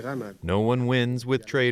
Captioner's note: through translator